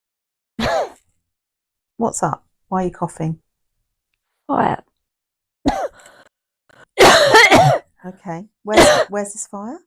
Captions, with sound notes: (Coughing) What's up? Why are you coughing? Fire. (Coughing) Okay, where's this fire?